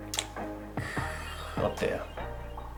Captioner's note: laughing